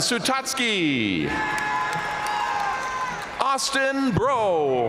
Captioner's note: audience cheering and applauding